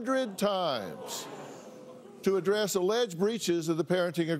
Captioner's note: crowd murmurs